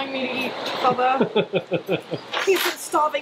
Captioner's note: laughs